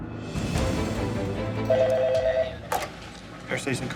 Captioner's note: telephone rings